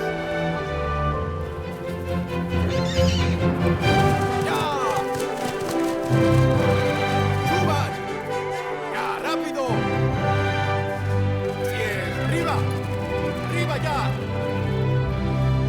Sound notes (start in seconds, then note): 6.8 upbeat orchestral music; 7.9 horse whinnies; 11.1 upbeat orchestral music continues